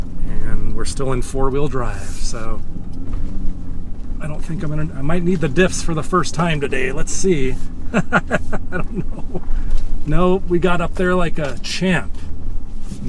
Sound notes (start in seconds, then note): 8.3 laughs